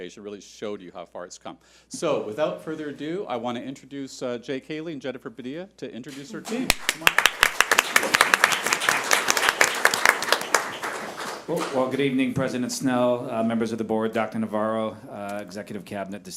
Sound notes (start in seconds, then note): 8.3 audience applauds